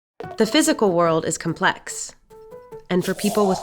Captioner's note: voiceover